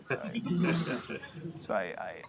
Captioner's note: laughter